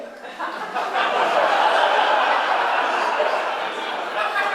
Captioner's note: audience laughing